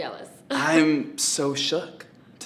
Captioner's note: laughing